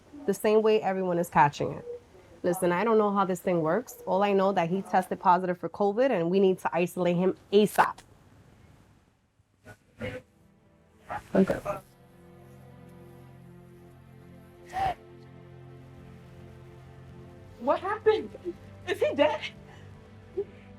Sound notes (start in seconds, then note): 10.8 reflective music; 15.4 Zion sobs